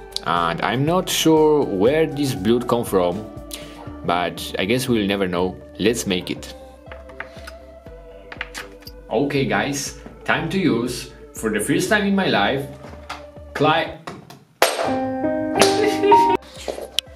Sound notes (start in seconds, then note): 14.7 tool hits the floor; 14.9 sad piano music; 15.3 sobs